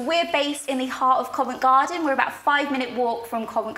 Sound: none

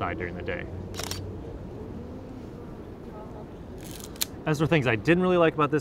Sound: camera shutter clicks

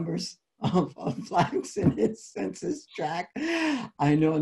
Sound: laughs

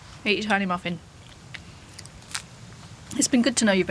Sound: chewing

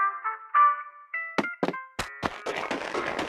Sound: footsteps

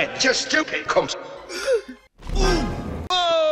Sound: gasp

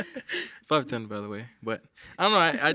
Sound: laughs

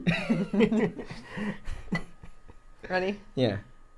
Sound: laughs

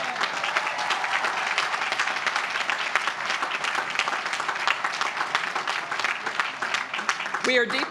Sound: applause

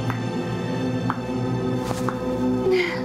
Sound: slow clapping

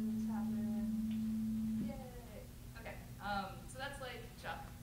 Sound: BEEP at 220 Hz

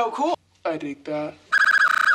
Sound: lower voice

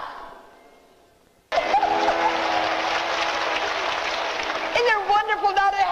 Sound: audience applause

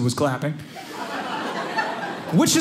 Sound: audience laughing

